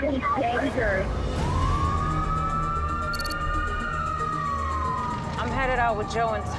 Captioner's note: police sirens